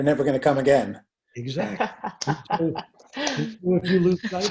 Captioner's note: laughing